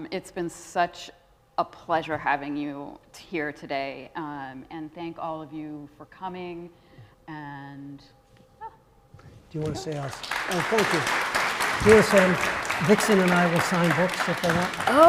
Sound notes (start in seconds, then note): 10.4 congregants laughing